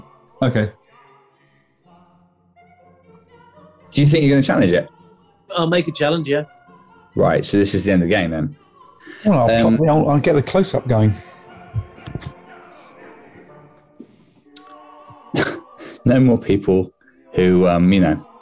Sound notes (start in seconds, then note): 15.0 laughs